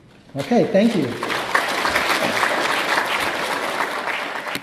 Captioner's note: applause